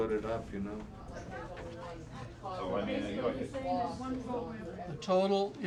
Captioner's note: people chattering